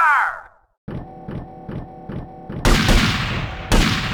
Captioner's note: gunshots